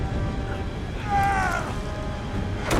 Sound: scream

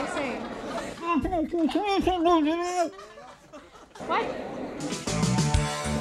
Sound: Andy mumbling; upbeat rock music

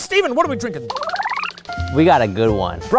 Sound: reversing sound effect

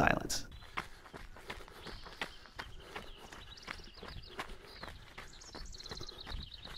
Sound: birds chirping; footsteps crunching gravel

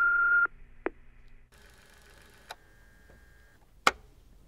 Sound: answer phone beeping

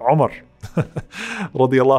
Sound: laughs

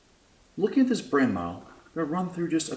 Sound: voiceover

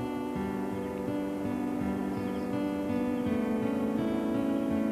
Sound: cicadas singing

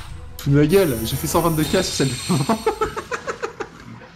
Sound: laughs

